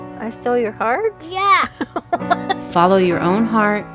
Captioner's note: laughs